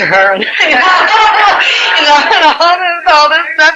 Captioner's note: laughing